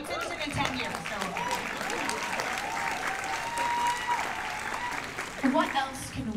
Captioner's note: cheers; cheers and applause